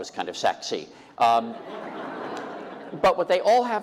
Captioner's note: laughter